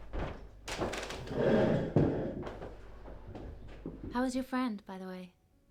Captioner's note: chair scrapes